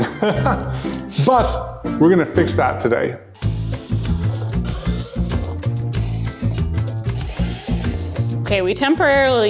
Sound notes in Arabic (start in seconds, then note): 0.3 يضحك; 3.3 موسيقى مبهجة; 3.3 حفر أزيز